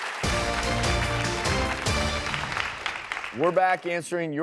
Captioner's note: applause; theme music